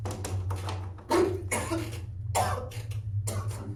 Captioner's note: Willem coughs